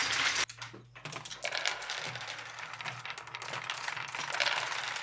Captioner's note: marbles rolling